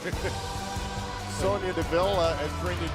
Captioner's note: laughter